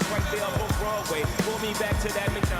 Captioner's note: cheers